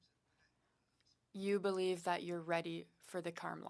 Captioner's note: speaking French